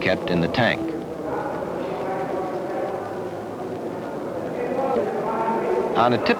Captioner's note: indiscriminate chatter